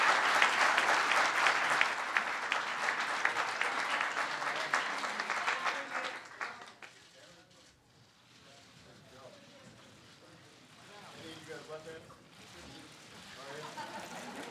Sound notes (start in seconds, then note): 8.1 applause